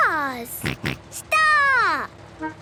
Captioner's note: snort